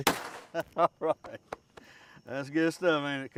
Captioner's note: bang; laughs